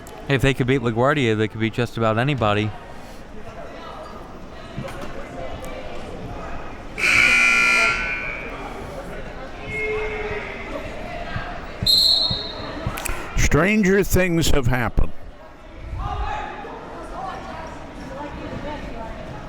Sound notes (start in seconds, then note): 7.0 buzzer rings; 11.8 whistle blows